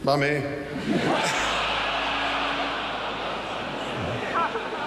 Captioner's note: audience laughs